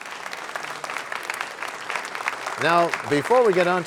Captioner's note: applause